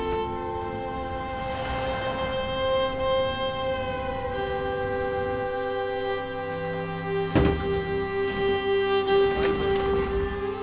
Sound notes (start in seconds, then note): 1.6 vehicle engine revving; 7.3 plastic container thuds